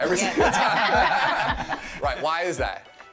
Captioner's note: all laughing